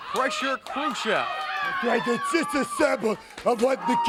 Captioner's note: crowd chatter